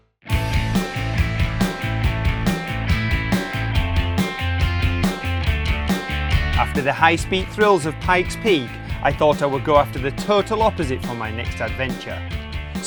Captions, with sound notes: (upbeat adventurous music) - [Voiceover] After the high speed thrills of Pikes Peak, I thought I would go after the total opposite for my next adventure,